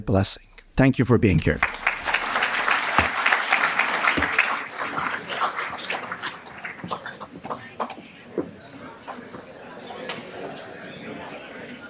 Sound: applause

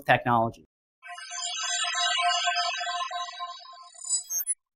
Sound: electronic chiming

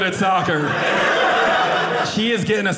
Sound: audience laughing

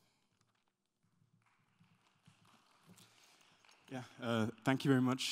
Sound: applause

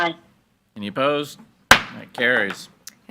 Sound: gavel bangs

